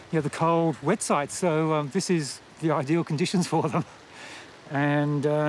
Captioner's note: chuckles